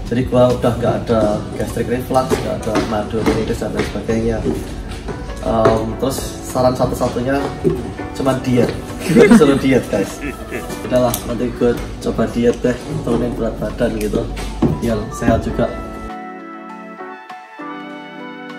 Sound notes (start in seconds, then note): 9.0 chuckles